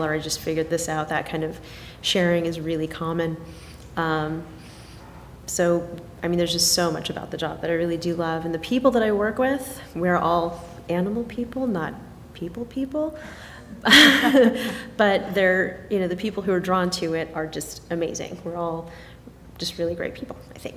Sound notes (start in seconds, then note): 13.8 laughing